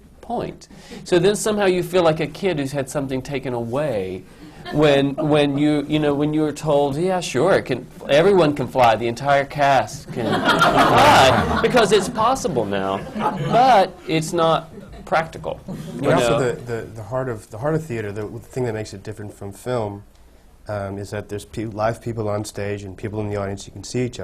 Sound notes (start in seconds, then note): 10.0 laughter